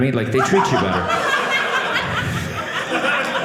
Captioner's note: audience laughing